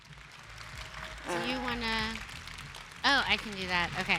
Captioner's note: applause